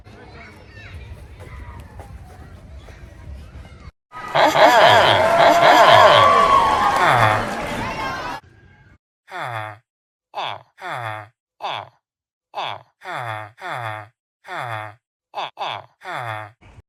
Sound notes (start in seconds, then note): 4.1 villagers cheer for Benny's return; 7.3 villager noise; 12.3 villager noises